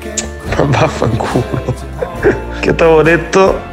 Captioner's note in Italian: risate